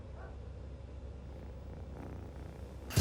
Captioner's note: purring